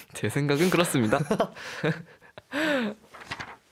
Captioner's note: laughs